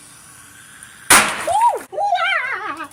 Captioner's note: chemical explosion